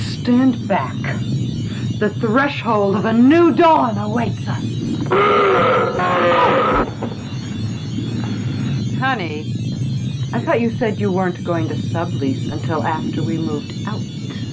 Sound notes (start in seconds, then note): 5.1 growling